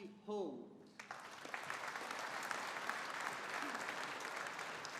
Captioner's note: audience applauding